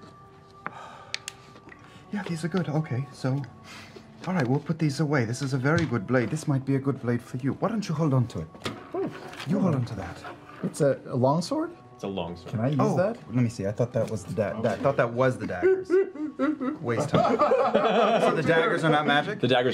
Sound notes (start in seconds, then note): 15.4 fake crying